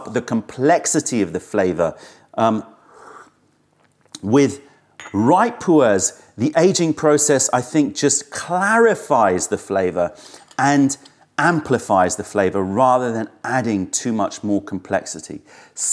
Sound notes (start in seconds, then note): 3.7 sips tea